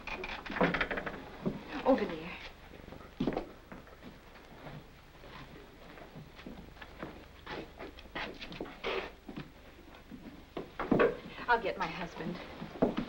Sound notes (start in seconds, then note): 4.6 boots Scuffing the Floor